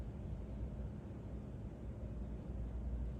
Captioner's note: none